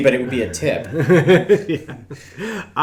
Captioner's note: men laughing